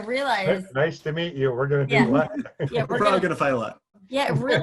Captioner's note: laughs